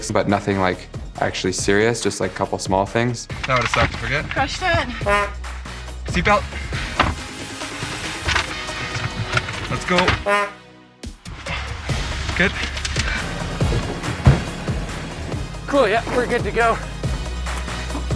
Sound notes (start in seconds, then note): 5.0 horn beeps; 10.2 horn beeps